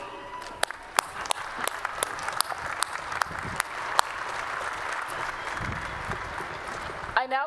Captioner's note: applause